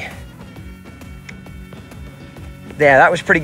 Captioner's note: mouth clicking